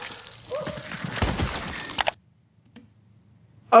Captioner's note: victim screaming; mouse clicking